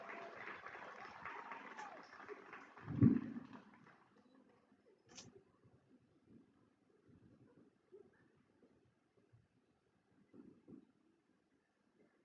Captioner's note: cheering and applause